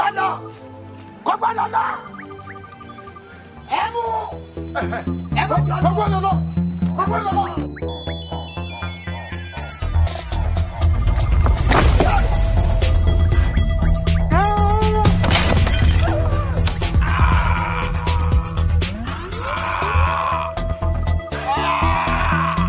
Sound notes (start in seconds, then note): 0.2 man yelling in foreign language; 4.2 tense electronic music; 12.2 henchman groans; 15.2 table shatters; 16.9 henchman groaning